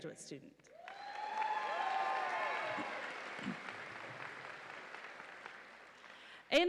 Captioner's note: audience applauds and cheers